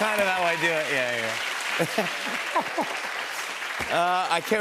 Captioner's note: applause